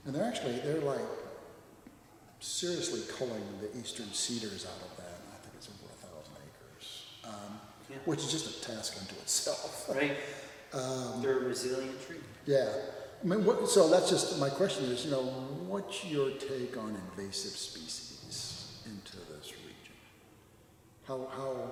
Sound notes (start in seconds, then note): 9.5 laughs